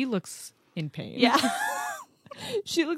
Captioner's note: laughs